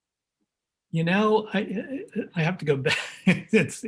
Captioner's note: chuckles